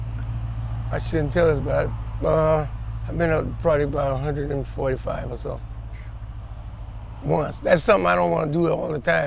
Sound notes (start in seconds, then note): 0.9 car engine starts; 2.4 car engine revs